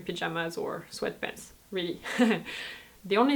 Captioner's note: laughs